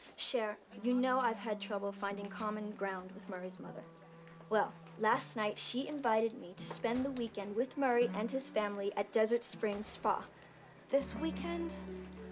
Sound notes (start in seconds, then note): none